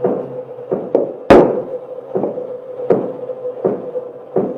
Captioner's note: tool thuds